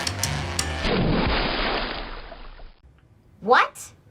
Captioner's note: splash